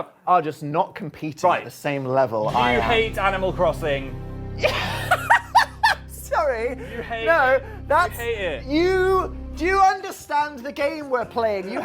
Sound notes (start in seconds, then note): 4.6 laugh